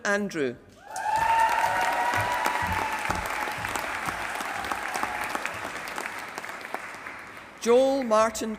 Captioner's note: applause